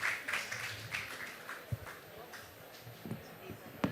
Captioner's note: applause